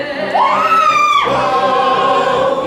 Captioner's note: The FOOD BUG screams